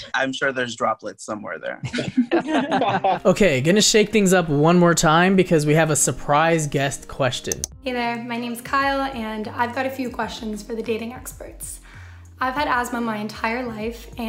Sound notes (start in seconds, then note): 1.8 all laugh